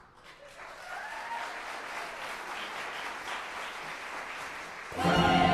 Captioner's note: applause